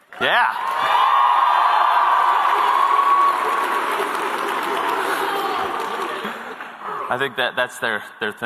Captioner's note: cheers